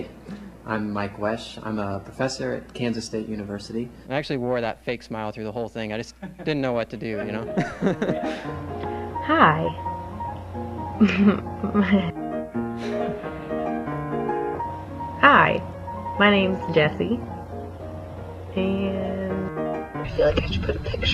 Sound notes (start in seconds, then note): 7.1 laughter; 10.9 laughs; 15.4 laughs